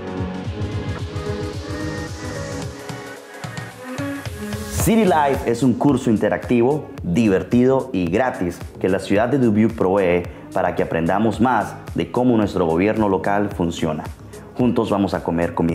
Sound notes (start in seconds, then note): 0.1 upbeat music; 5.6 speaking Spanish